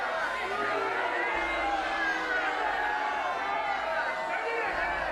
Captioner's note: crowd yelling continues